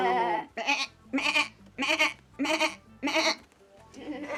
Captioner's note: bleating